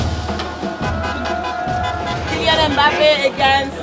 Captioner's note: horns honking; upbeat percussion music